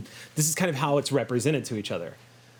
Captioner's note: none